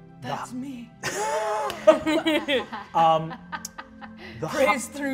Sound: all laughing

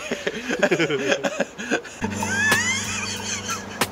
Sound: laughter

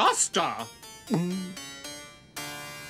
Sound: gulp

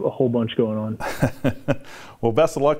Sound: chuckling

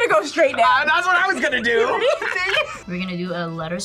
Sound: both laugh

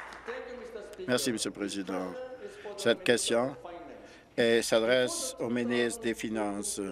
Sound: applause

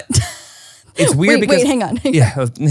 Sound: laughs

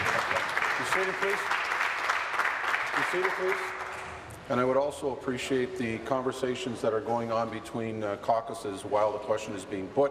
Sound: applause

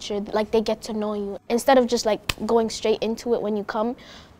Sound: hands clap

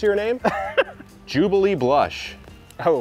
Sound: laughs

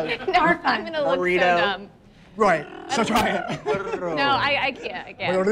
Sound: laughs

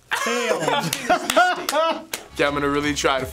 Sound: laughing

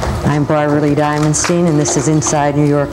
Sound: audience applauding

